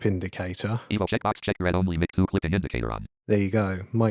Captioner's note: automated voice